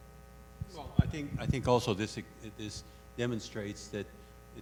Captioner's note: voiceover